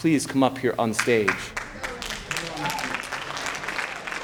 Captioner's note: applause